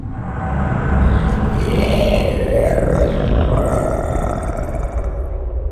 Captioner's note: guttural monsterous roar